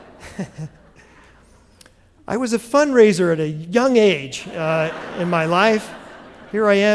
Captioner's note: laughter